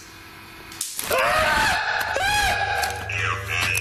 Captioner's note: yelling